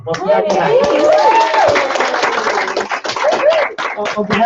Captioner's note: applause